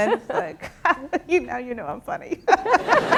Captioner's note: laugh; laughter